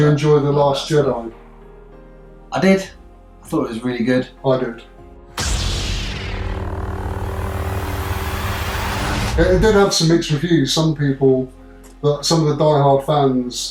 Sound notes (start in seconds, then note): 5.4 light sabre sounds